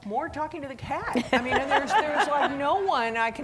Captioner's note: laughing